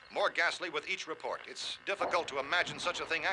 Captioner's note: thumping